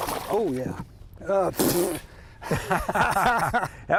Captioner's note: water splashes; spitting; both laugh